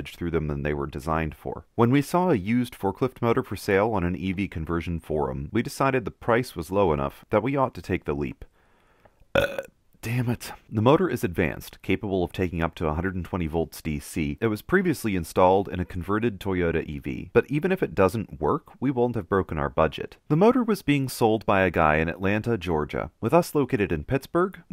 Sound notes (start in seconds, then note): 9.3 burp